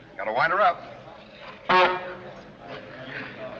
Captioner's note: horn honks